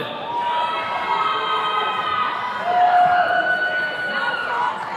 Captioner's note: attendees cheering